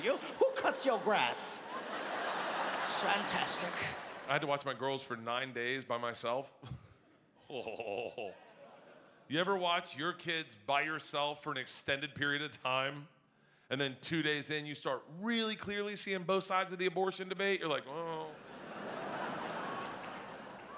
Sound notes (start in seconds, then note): 0.0 audience laughing; 7.5 laughs; 18.3 audience laughing